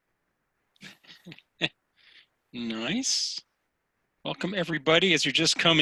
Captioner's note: laughs